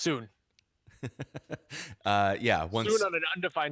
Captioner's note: chuckles